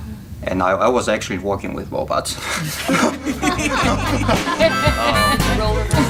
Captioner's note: all Laughing; intro Music